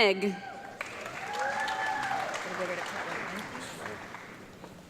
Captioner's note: audience clapping